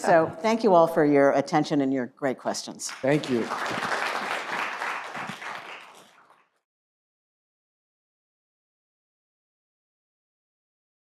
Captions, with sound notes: So thank you all for your attention and your great questions. Thank you. (applause)